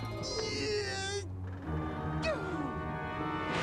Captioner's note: grunting